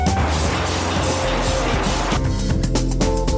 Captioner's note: spraying